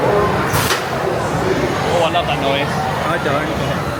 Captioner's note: coaster pivoting